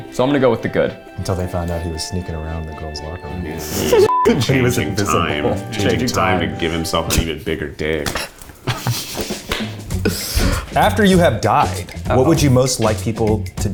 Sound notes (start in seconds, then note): 4.1 beep; 8.5 laughing